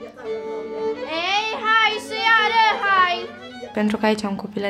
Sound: foreign dialogue

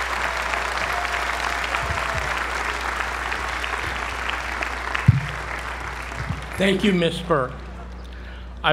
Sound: applause

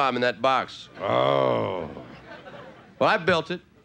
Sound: audience laughing; grunts

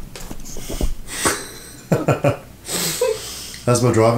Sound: laughing

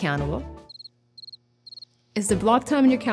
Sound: crickets chirping

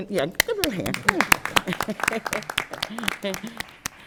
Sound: applause

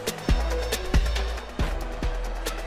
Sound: dramatic music; bell dings

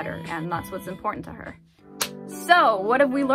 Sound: clap

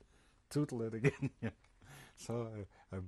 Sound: laughs

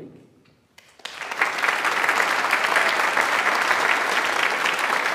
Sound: audience applauds

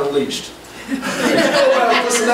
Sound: group laughs

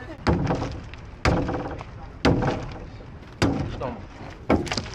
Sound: metal thumping; hammer thudding; local speaking Portuguese

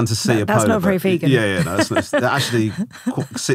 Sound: laughing

